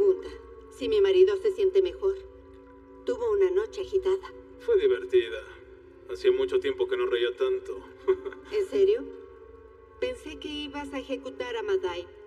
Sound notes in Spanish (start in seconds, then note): 8.0 Ríe